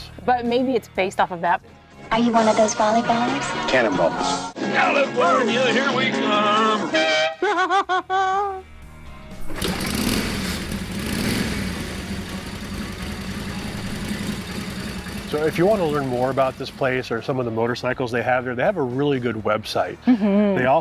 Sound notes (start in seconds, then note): 6.8 trumpet blowing; 7.3 laughing; 9.8 engine revving